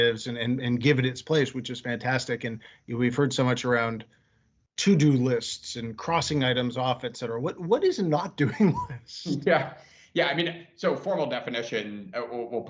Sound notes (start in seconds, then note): 7.5 laughing